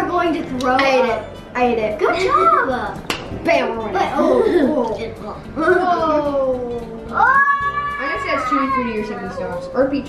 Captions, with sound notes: - You are going to throw up. - I ate it. I ate it. - Good job. - Bam! - Oh. (screaming) - That's tutti-frutti or stinky socks.